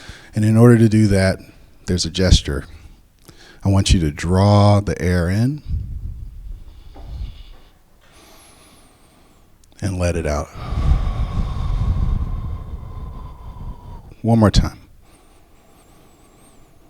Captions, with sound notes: And in order to do that, there's a gesture. I want you to draw the air in - [Breathes in] and let it out. [Breathes out] One more time.